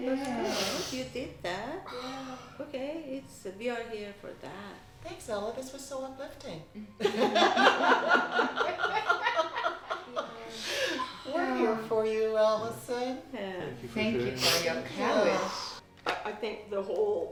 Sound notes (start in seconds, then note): 7.0 laughter